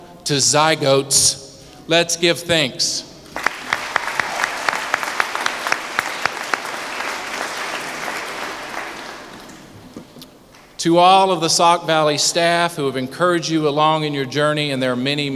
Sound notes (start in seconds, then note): 6.8 applause